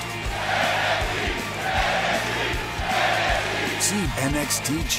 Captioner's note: fans chanting